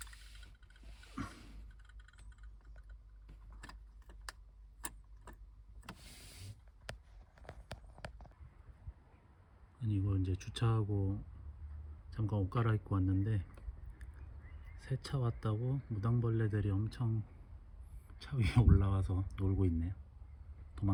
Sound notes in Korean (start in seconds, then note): 1.1 목을 가다듬음; 6.9 콧방귀